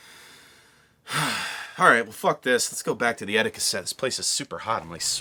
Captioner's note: sigh